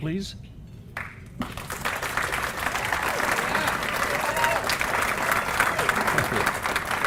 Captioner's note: applause